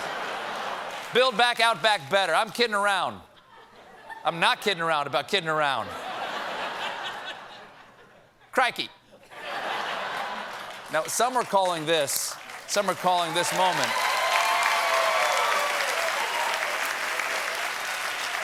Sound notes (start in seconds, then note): 5.8 laughter; 8.0 applause; 8.0 cheers and applause